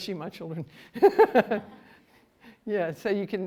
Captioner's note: laughter